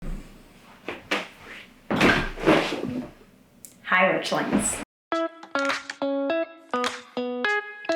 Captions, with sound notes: (chair clatters and groans) - Hi, Witchlings. (upbeat music)